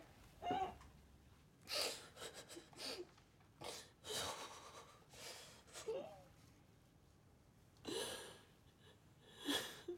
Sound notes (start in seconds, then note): 1.7 sobbing continuing